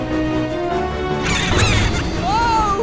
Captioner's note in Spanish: Vagones riéndose